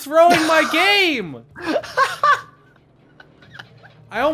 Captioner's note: chuckles